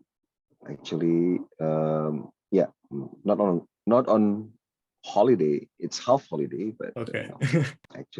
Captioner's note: laughs